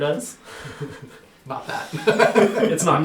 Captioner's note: laughs